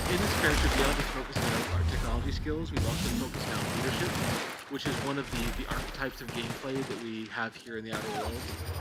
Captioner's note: screaming